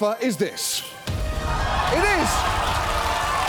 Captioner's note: audience laughs